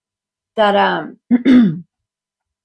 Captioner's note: clears throat